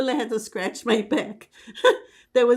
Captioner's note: laughing